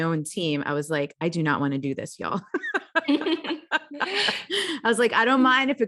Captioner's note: laughs